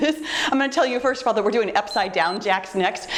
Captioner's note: timer beeps